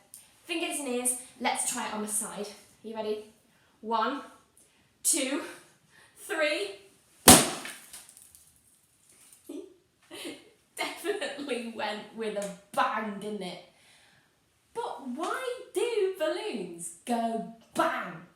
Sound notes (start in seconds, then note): 7.2 balloon pops; 10.1 giggles